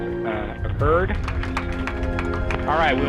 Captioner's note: clapping